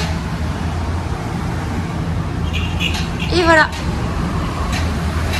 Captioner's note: road noise